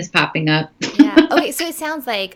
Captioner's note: laughing